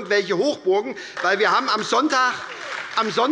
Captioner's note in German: Beifall bei der SPD